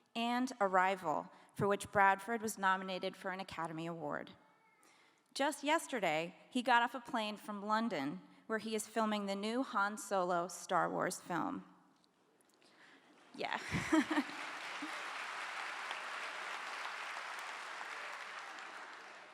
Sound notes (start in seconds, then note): 13.6 laughing; 14.0 clapping